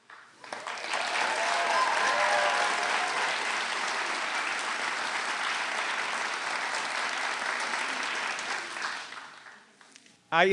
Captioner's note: applause